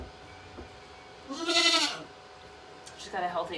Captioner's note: Maybel bleating